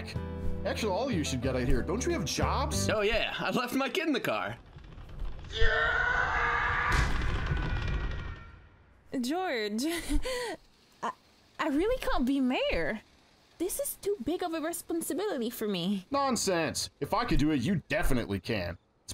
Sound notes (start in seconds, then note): 4.9 crowd stampeding; 6.9 crowd tramples and leaves; 10.1 nervous laugh